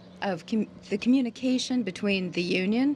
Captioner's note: speaking french